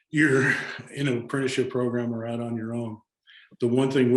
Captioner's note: chuckles